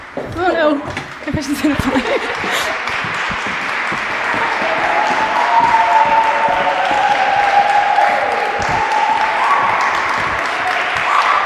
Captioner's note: applause